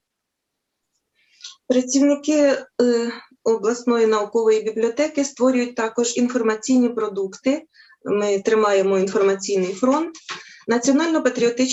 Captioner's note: foreign Language